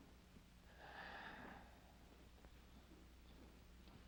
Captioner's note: St. John sighs